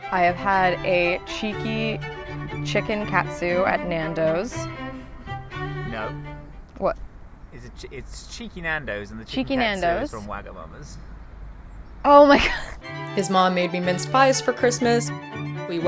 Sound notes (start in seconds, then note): 12.3 laughs